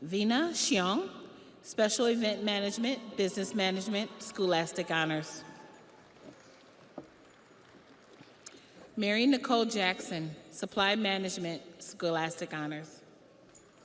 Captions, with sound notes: Vena Chiung, Special Event Management, Business Management, Scholastic Honors. (audience applauds) Mary Nicole Jackson, Supply Management, Scholastic Honors.